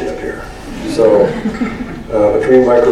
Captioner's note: laughter